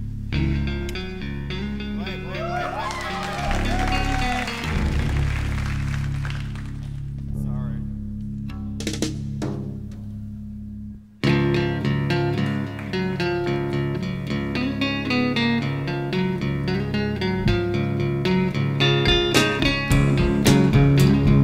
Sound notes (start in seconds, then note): 0.3 acoustic guitar plucking; 3.9 upbeat acoustic rock music; 6.5 audience applauding; 6.5 audience cheering